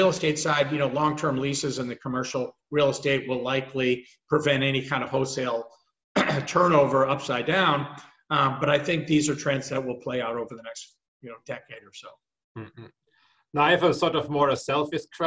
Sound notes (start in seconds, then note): 6.1 cough